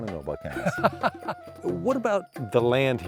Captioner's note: laughter